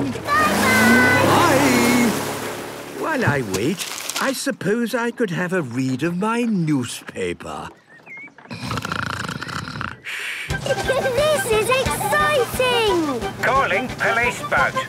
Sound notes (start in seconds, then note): 8.5 snoring; 10.4 giggling; 12.9 voice over radio